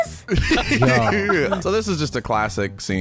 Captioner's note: laughing